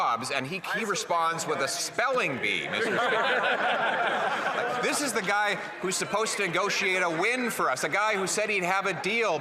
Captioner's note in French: voix de l'interprète